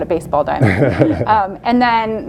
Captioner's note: chuckles